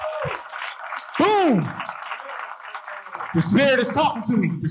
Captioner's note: audience applauding